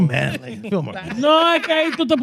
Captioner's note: laughing; speaking In Foreign Language